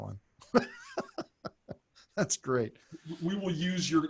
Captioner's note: laughs